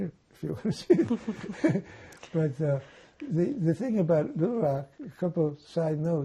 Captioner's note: laughing